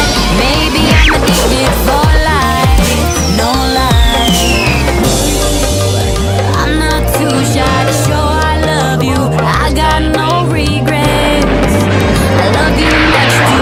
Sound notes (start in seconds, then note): 0.0 smack!; 4.9 biff!